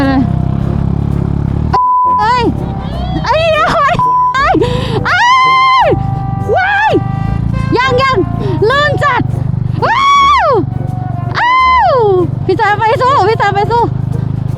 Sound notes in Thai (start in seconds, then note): 1.7 ยอุทาน